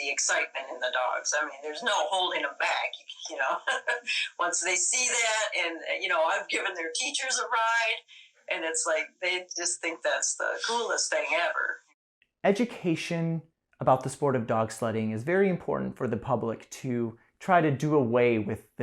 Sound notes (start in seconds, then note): 3.8 laughter